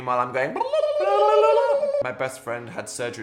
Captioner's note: exclaims; Dan and Phil exclaiming